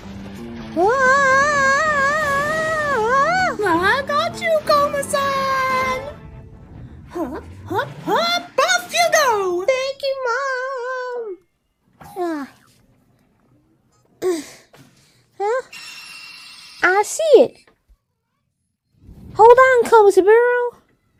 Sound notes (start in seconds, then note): 0.8 Komasan yells; 12.2 Komasan struggles; 15.2 Komasan gasps